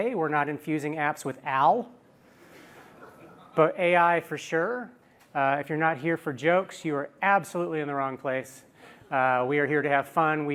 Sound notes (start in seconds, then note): 2.9 laughter